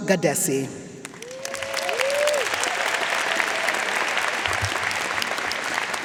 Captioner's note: audience cheering and applauding